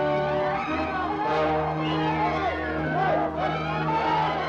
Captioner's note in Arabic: صراخ